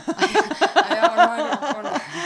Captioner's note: laugh